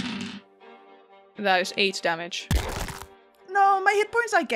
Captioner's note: sound of impact on flesh